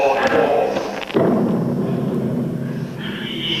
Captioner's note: cannon boom!